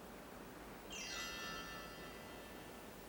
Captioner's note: chimes ring